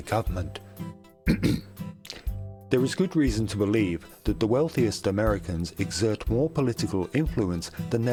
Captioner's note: ahem